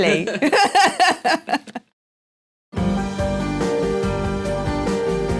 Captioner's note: laugh